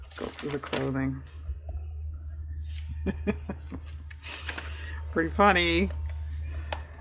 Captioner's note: laughs